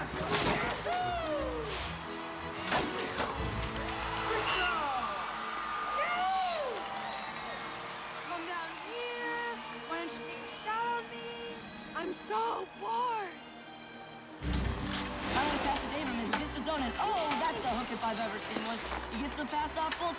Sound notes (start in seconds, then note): 0.7 continues Whooping; 4.3 crowd Cheering; 7.0 cheering Continues